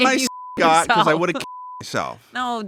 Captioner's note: beep